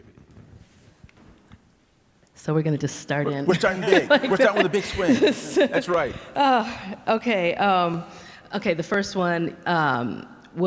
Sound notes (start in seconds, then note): 3.2 laughing